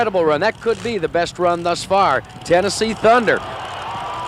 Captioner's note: voiceover